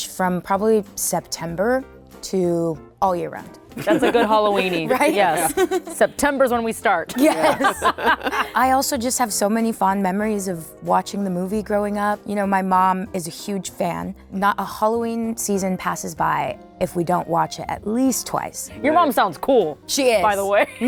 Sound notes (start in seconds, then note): 3.7 laughing; 7.1 laughter